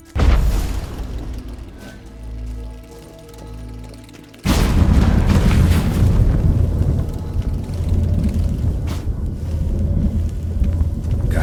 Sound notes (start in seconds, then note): 0.1 thunderous boom; 4.4 portal thunders; 6.4 deep rumbling